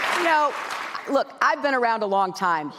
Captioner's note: applause